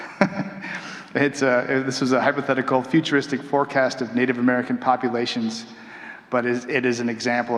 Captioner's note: chuckling